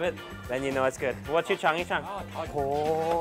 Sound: speaks in Chinese

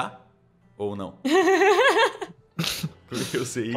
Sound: laughs

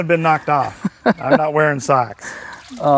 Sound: laugh

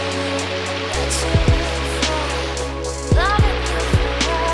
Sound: water running

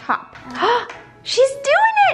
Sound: gasps

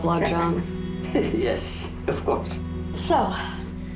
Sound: laughs

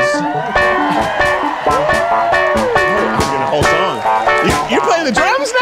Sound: audience cheering; upbeat music

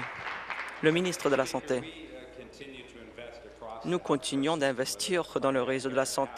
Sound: applause

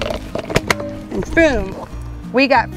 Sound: gear locks

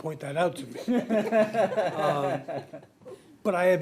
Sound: people laugh

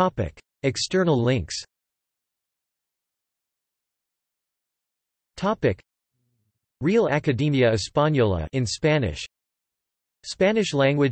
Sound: in Spanish

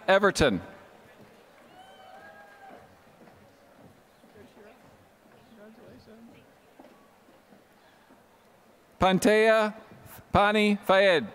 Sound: applause

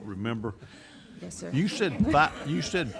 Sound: laughing

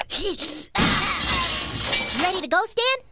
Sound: glass shattering

